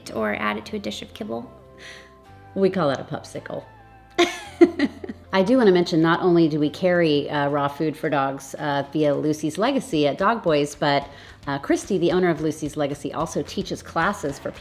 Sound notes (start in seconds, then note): 4.2 laughs